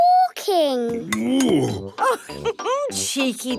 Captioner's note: laughs